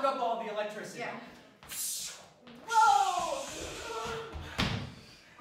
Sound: web noises

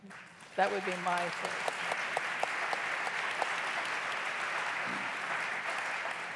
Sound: applause

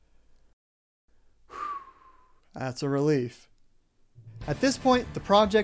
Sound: exhale

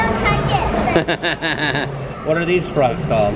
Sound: laughs

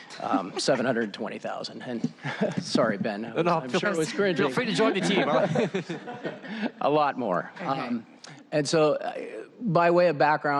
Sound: laughter

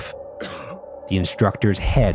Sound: coughing

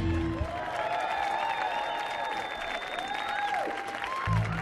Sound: audience applauding

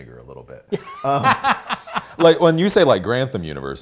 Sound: laughs

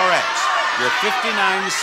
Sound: audience yelling

